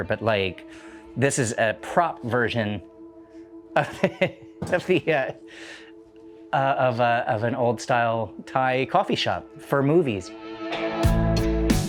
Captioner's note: laughing